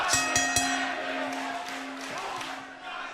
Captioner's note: bell ringing; crowd chatter